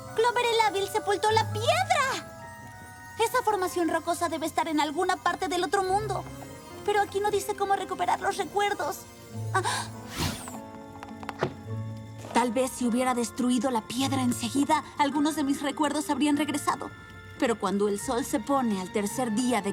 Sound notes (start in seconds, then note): 9.6 gasp